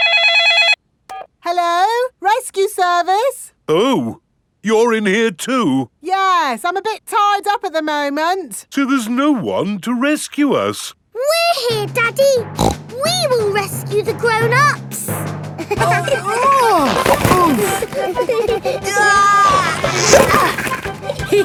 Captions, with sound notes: (CELL PHONE RINGING) Hello, rescue service. Oh. You're in here too. Yes, I'm a bit tied up at the moment. So there's no one to rescue us! We're here, Daddy! (SNORTS) We will rescue the grown-ups! -(GIGGLING) -(GRUNTING) -(GIGGLING) -Aah!